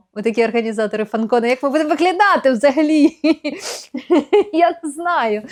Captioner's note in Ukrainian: сміх